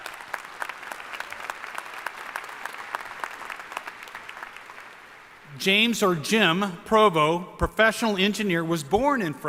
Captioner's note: applause